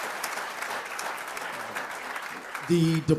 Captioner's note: applause